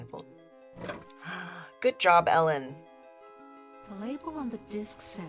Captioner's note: gasps